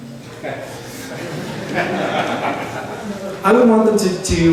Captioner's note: laughter